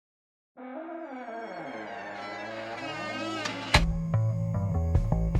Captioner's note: door hinges creaking